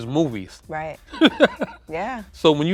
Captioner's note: laughs